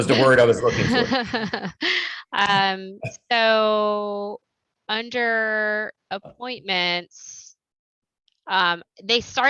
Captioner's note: laughter